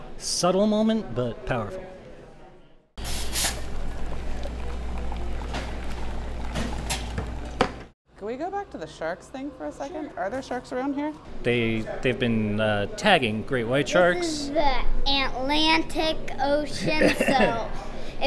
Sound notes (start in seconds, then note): 2.8 coffee shop Sounds